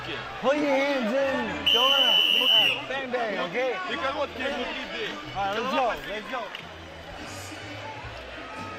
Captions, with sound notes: - Pull your hands in... [whistle blows] Bang-bang, okay? All right, let's go. Let's go.